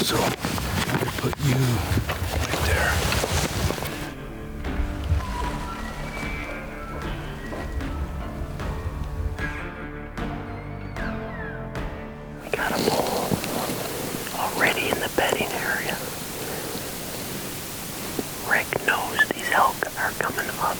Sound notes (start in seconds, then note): 5.3 elk bugling; 5.3 soft music